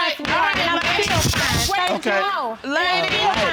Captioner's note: gavel banging